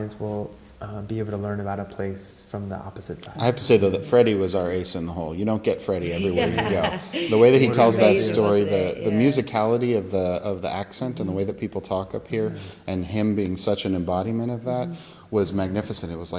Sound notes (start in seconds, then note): 6.1 laughs